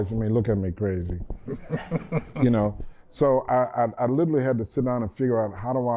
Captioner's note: laughter